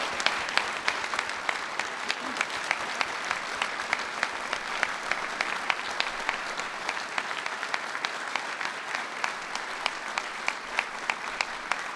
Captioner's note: applause